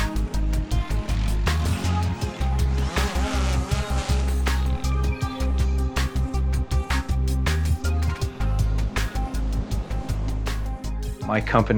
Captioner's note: blades rotating